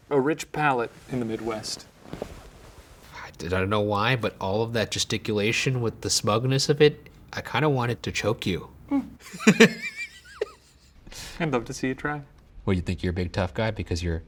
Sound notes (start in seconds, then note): 8.9 laughing